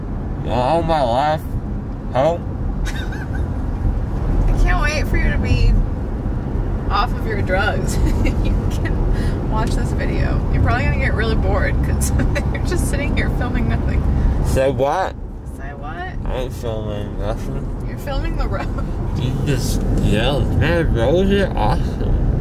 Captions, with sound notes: You don't know my life! Hoe! (laughing) I can't wait for you to be off of your drugs. So you can watch this video. You're probably gonna get really bored cuz you're just sitting here filming nothing. Say what? I ain't filmin nothin You're filming the road. You're just jealous. Man, roads are awesome.